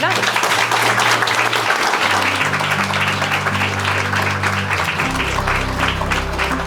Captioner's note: audience applauding; light music